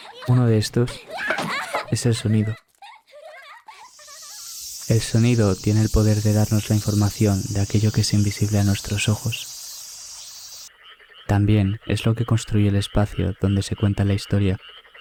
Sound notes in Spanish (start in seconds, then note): 3.8 cigarras